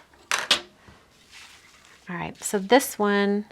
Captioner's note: objects knocking